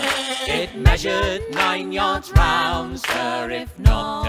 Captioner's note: bleats